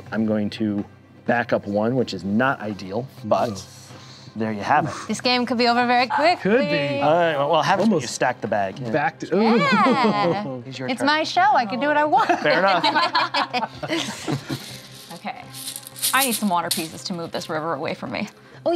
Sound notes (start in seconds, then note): 12.2 laughter